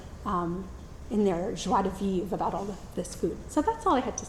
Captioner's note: says word in foreign language